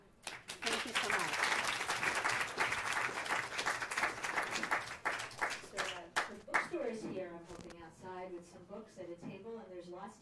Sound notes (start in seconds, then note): 0.2 applause